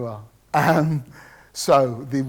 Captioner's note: laughs